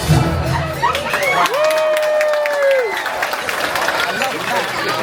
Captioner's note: diners cheer and applaud